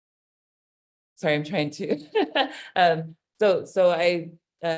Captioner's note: laughing